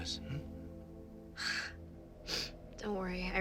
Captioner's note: Mattie sighs; sniffles